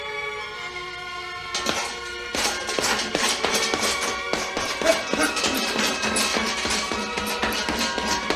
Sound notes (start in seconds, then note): 2.3 punching noises